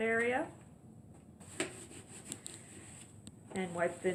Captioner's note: rubbing sound